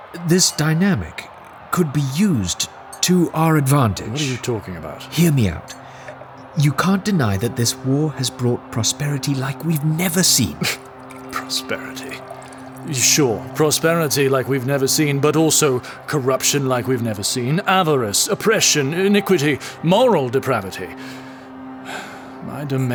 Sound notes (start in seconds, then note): 13.9 sounds of wine pouring